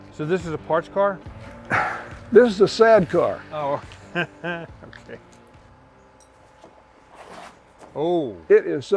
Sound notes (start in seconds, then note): 4.0 laughs